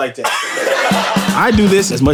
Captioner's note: audience laughing